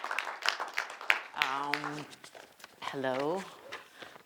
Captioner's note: audience clapping